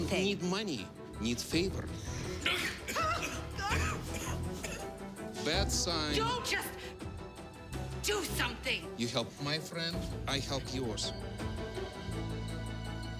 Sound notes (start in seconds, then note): 2.0 coughing